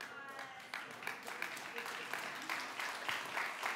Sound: applause

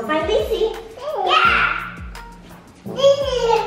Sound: babbles

